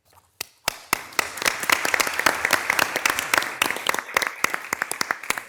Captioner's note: everyone applauds